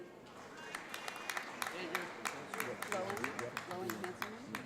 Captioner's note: audience applauds